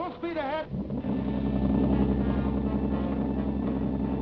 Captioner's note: boats rumbling